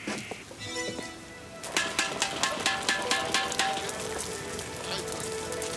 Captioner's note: gentle music; tapping metal; men chattering